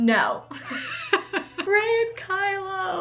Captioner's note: laughs